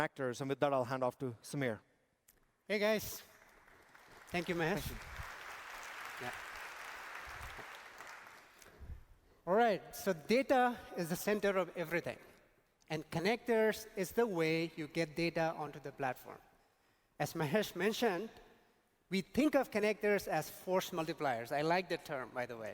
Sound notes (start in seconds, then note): 6.4 applause